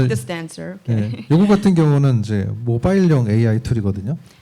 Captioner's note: speaking korean